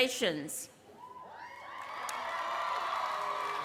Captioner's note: cheering